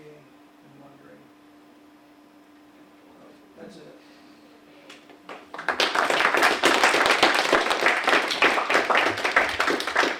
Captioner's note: audience applause